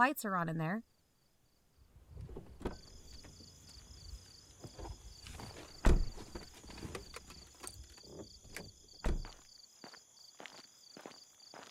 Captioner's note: car doors open and close, night ambience, they walk on dirt road